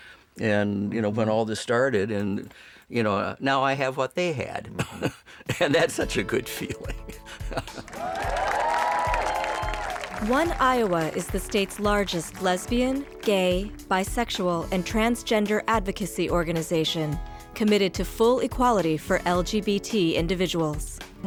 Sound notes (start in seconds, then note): 7.0 chuckles; 7.7 crowd cheering